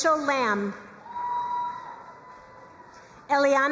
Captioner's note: crowd cheering and applauding